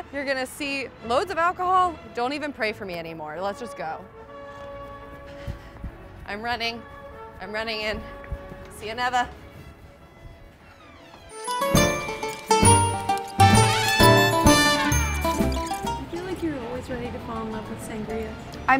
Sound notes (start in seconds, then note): 10.6 door closing; 11.2 italian music